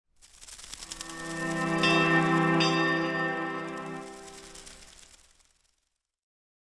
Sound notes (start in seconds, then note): 1.1 light airy music; 1.4 bell chimes; 3.7 light airy music